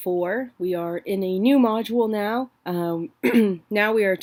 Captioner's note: clears throat